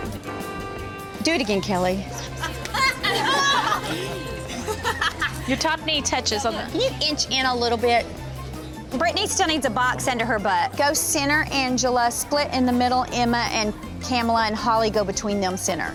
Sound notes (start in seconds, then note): 2.1 laughing